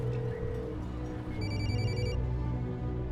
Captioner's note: cell phone rings